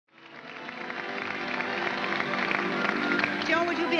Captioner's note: audience applause